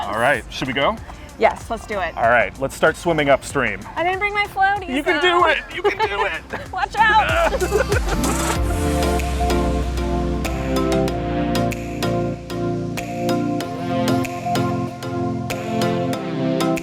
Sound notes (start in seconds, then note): 7.2 both laughing; 8.7 upbeat electronic music continues